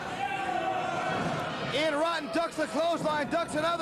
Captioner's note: cheers and applause